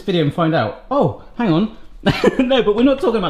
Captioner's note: laughs